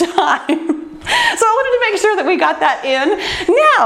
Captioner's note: laughs